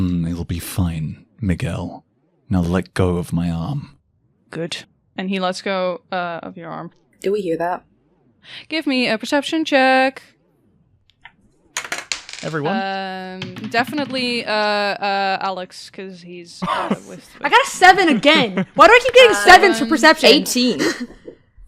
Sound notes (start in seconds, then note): 11.7 various good dice clacks; 16.6 laughs